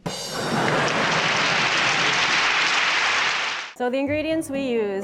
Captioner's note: crowd applauding